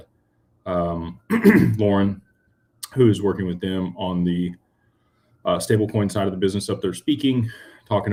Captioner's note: clears throat